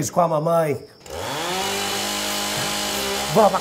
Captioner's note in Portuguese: motosserra ligada